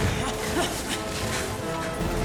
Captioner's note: grunts